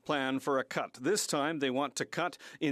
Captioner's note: speaking French